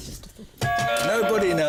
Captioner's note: buzzer